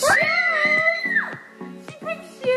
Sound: screams

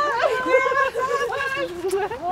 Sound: laughing

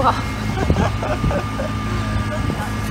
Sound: laughing

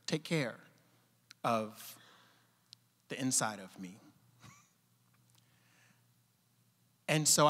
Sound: chuckling

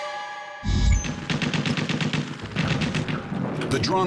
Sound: gunfire

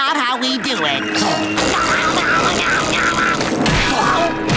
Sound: screaming

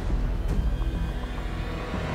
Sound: footsteps

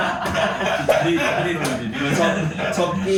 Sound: laughter

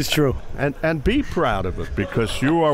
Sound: laughing

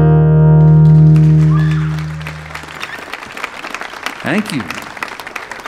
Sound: audience applauding

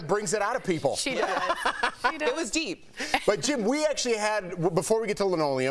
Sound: laughter

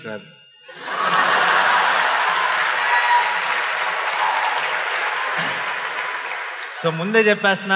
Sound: cheers/Applause

